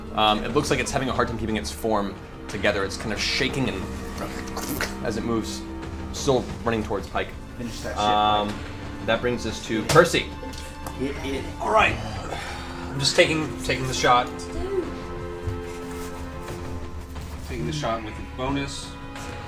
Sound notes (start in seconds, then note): 0.0 sings; 4.0 oozing sound